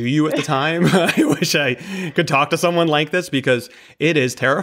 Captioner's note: laughs